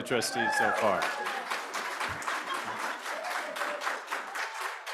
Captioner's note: cheers, applause